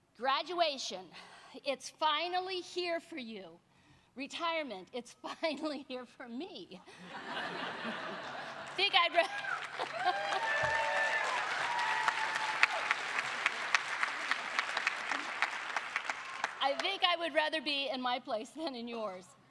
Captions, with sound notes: Graduation. It's finally here for you. Retirement. It's finally here for me. [Laughter] [Applause] I think I would rather be in my place than in yours,